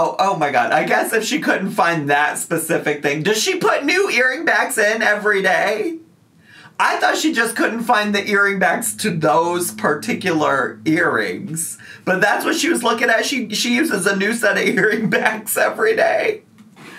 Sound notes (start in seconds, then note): none